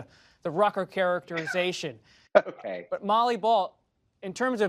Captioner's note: laughs